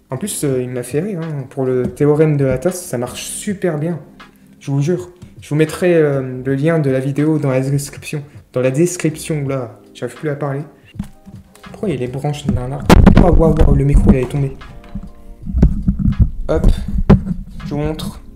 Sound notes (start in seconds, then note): 12.4 mic falls off the stand